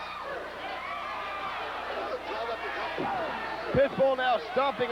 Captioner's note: crowd cheering